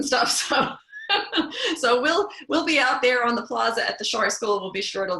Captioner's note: laugh